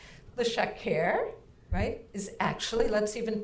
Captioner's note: speaking in foreign language